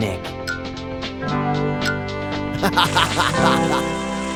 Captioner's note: laughs